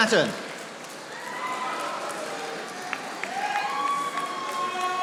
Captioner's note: audience applauding